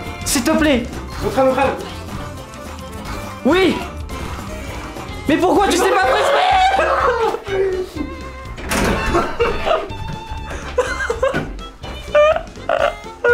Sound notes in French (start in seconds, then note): 10.4 Explose de rire; 10.4 Rires